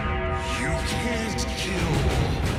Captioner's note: bell tolls